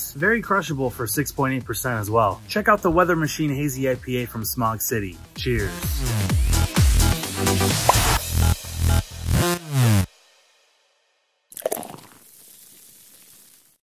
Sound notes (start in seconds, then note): 6.2 upbeat music; 11.5 drink pouring in glass